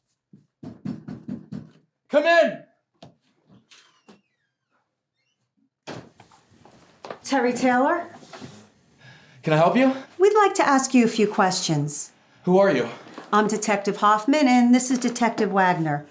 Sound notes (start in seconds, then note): 0.6 knock on door; 2.7 latch clicks; 5.8 door thuds